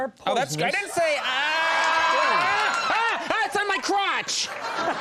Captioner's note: everyone screams; audience laughs